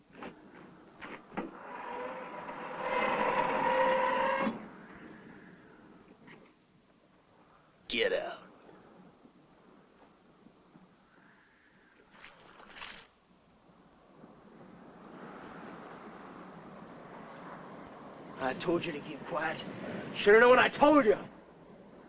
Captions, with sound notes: [ FOOTSTEPS - CAR TRUNK CREAKING ] [ CAR TRUNK CREAKING ] Get out! I told you to keep quiet. Should know what I told you.